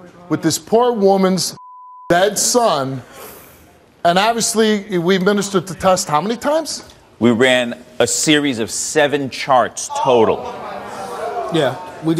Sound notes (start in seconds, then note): 9.9 audience responds